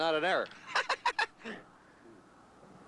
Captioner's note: laughing